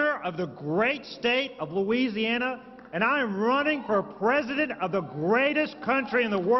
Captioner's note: applause